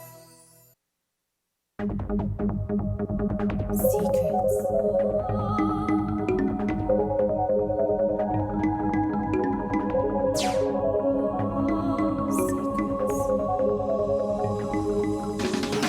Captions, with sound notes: - [Ghostly Female Voice] Secrets! (suspenseful music) Secrets!